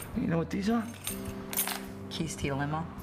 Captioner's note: keys jingling